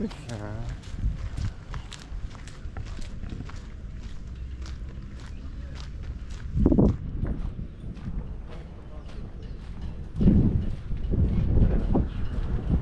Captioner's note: walking sounds